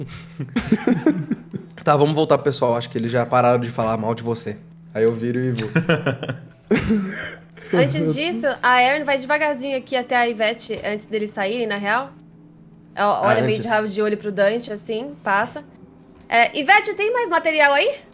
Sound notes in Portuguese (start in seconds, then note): 5.5 risos